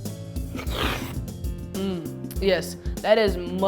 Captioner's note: slurping